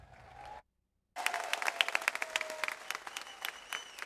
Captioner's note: audience applauds